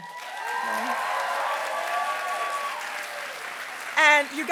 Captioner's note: applause